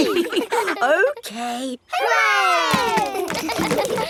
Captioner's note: chuckles; kids laughing